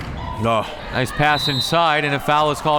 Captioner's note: whistle tweeting